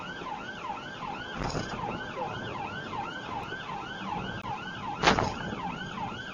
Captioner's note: engine accelerates; car clunks over multiple speedbumps